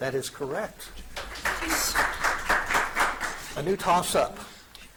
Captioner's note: audience applauding